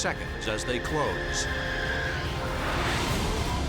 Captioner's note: jet engine noises